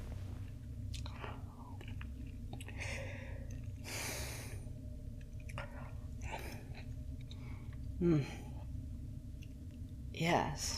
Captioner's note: eating noises